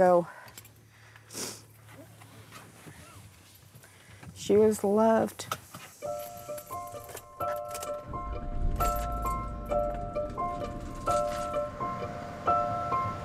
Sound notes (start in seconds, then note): 1.1 sniffling; 6.1 solemn music